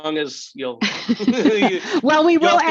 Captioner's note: both laugh